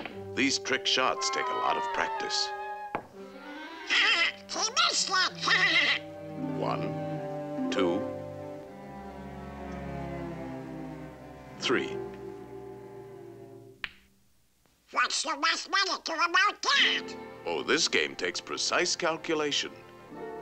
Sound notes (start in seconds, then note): 3.7 laughing